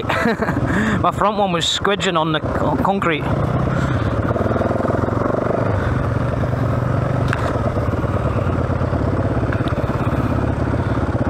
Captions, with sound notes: (laughing) My front one was squidgin' on the concrete. (wind blowing)